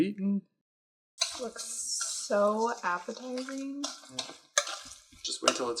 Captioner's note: sarcastically